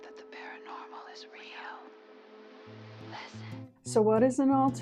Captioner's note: whispers